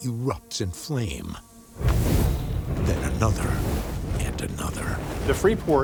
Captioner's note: fire roars